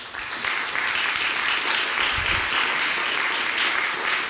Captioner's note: audience applauds